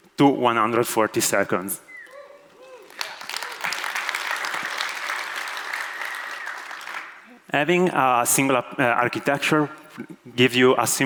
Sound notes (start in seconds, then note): 2.5 audience cheers and applauds